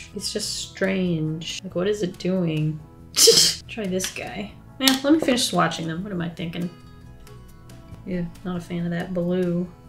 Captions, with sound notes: It's just strange. What is t doing? [Laughs] Try this guy. Nah, let me finish swatching, what am I thinkin'? Ew, not a fan of that blue.